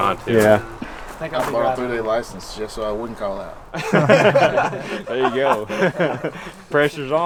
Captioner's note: all laughing